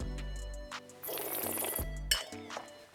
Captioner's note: upbeat music; slurps